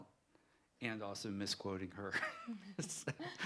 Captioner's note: laughter